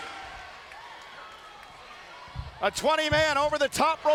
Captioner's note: crowd cheering